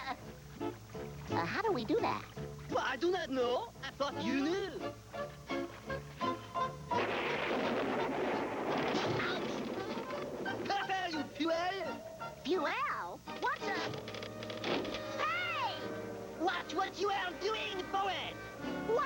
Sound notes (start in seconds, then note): 6.9 thunder; 6.9 crash